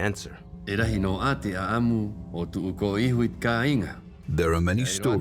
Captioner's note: man speaking Rapanui